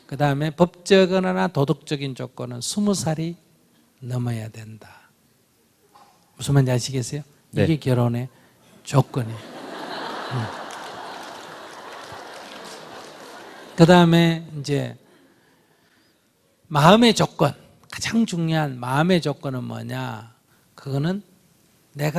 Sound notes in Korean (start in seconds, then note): 9.2 청중 웃음